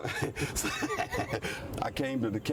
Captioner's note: chuckles